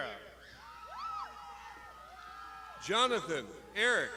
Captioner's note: crowd shouting